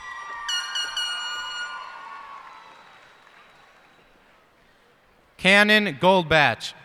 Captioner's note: cheers and applause